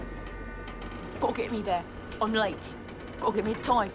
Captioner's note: imitating %*#